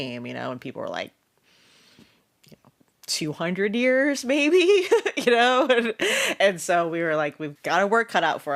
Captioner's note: laughs